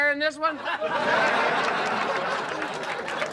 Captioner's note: laughter